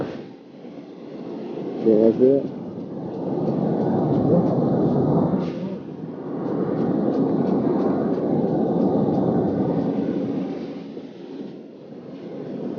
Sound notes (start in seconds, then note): 0.2 dramatic haunting music; 5.8 clock ticking; 5.8 dramatic haunting music